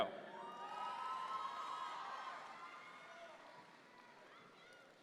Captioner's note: audience members cheer